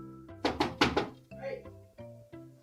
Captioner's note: knocking on window